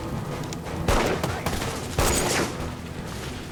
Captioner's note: shouting